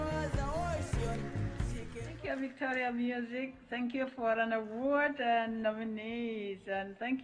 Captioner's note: applause